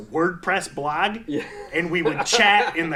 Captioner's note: laughing